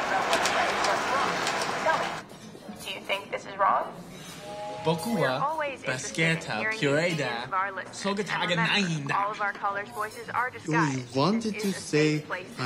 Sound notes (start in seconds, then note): 4.3 train whistles; 4.3 Brett speaking Japanese